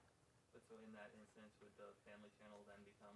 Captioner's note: voiceover